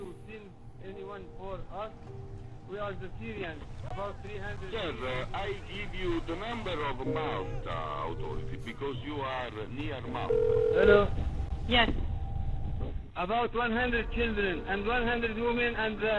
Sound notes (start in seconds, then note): 0.1 radio conversation; 10.2 phone ringing